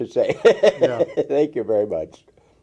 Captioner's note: laughter